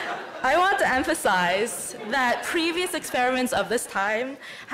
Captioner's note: laughter